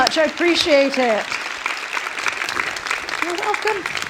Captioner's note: applause